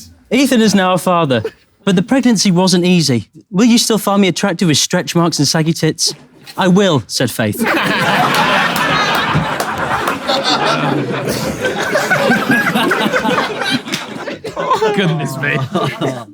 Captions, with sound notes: - Ethan is now a father, but the pregnancy wasn't easy. "Will you still find me attractive with stretch marks and saggy ****?" "I will" said Faith. [people in room laughing] - Goodness me.